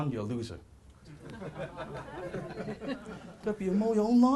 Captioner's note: laughing